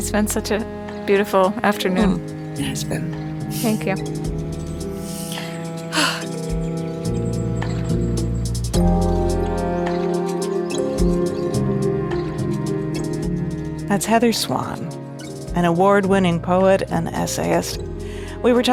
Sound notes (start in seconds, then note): 5.8 sighs; 8.1 light music